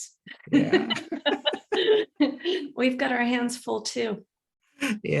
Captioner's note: laughter